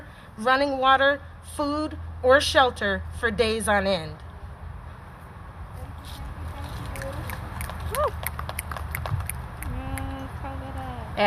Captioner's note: applause